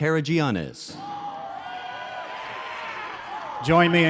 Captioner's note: audience cheers